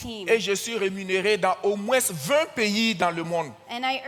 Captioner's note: continues in French